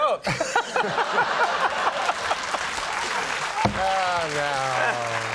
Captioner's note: audience applauding